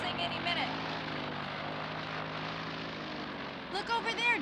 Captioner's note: engine whirring